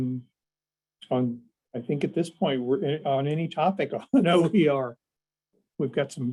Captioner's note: laughter